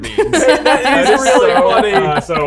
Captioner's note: all laugh